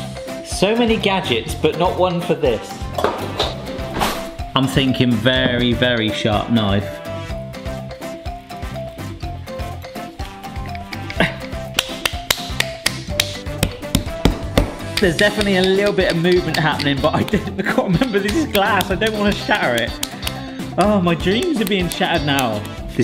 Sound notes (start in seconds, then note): 7.4 upbeat music; 11.4 hand slapping